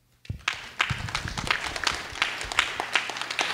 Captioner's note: clapping